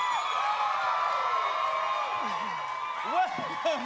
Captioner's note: cheers and applause